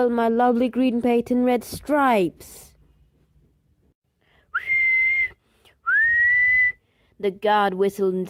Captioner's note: very bad whistle noises by me